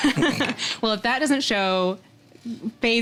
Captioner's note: both chuckling